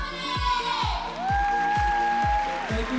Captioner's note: whooping